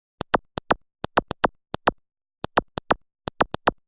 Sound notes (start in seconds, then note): 0.3 clicking